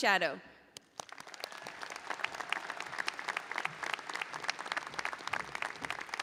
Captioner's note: audience applauding and cheering